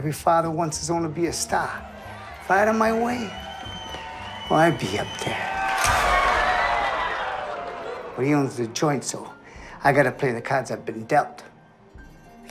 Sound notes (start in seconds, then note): 3.5 cheering, applause; 6.3 wild cheering